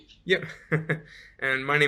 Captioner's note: laughing